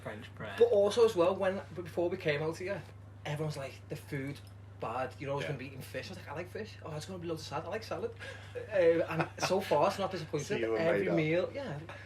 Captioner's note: laughter